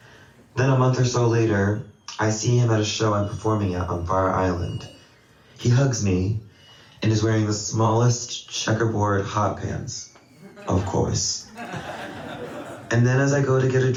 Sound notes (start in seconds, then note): 10.3 laughter